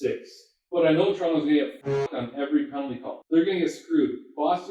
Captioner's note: goal horn sound playing